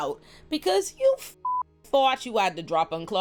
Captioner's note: beep